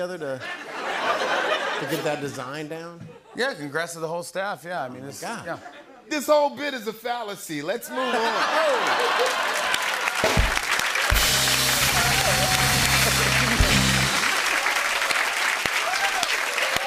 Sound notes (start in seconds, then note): 0.3 laughter; 7.9 laughter; 13.8 cheers and applause